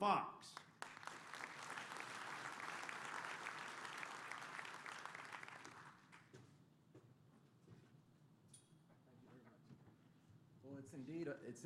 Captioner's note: applause